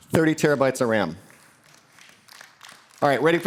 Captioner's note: applause